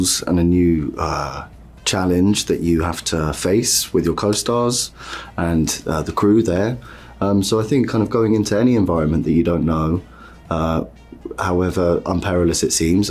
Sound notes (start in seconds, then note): none